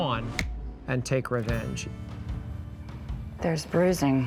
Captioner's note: snaps fingers